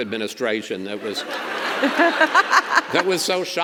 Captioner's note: governor laughs